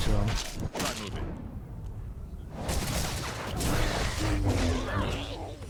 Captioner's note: gunshots